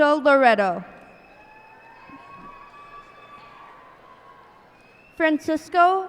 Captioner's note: cheers and applause